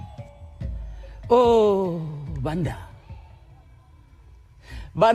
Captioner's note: non-english speech